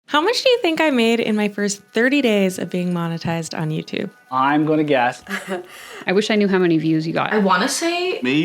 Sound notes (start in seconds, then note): 5.2 laughs